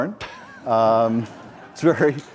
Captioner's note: audience laughs